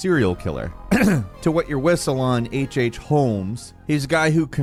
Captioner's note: clears throat